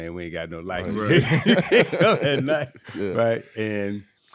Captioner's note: laughing